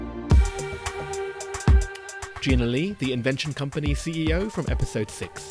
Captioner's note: voiceover